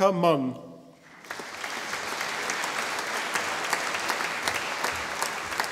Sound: audience applauding

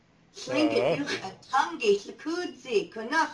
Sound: non-english speech

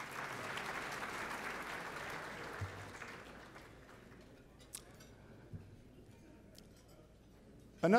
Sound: applause

